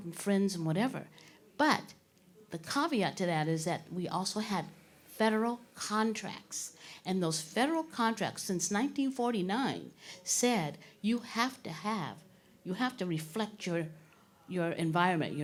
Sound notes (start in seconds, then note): none